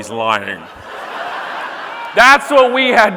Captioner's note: audience laughing